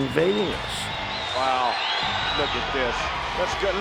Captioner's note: audience cheers and whistleS